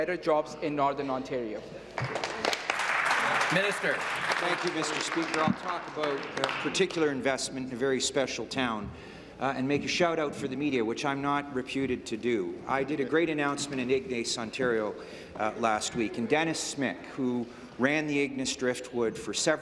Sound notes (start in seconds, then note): 6.5 some Applause